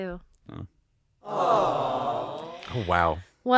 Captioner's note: awws